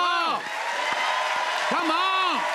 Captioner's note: cheers and applause